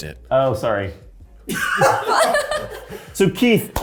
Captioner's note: cast laughing